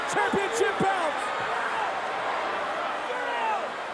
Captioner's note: crowd yelling